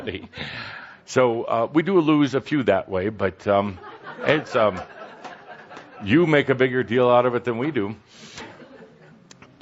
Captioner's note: laughter